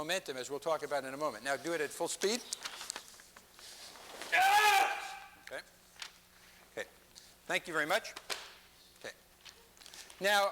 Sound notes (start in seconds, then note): 4.3 yells